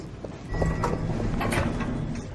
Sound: door closing

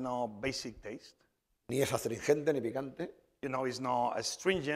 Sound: speaking spanish

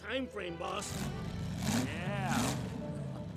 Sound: engine revving

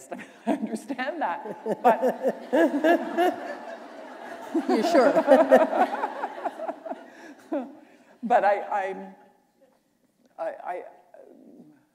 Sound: laughter

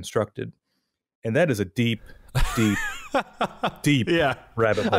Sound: laughs

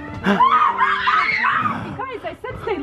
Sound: screaming

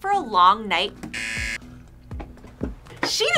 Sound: buzzer

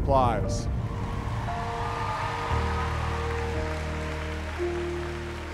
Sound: audience cheering

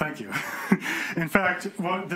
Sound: chuckles

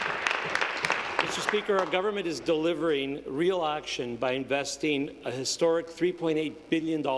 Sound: applause

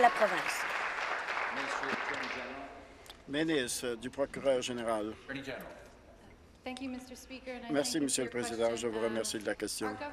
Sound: applause

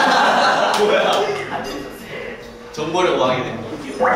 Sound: laughing

